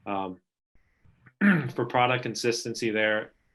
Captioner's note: clearing throat